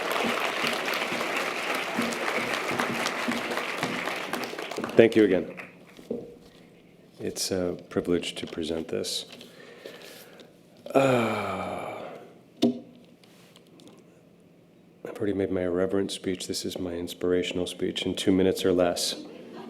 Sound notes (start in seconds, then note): 0.0 audience applause; 10.8 sighs